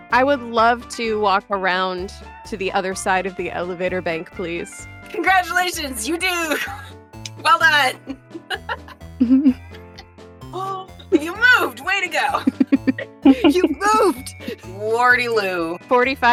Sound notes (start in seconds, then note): 9.2 chuckles; 12.4 chuckles